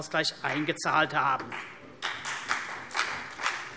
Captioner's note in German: Vereinzelter Beifall CDU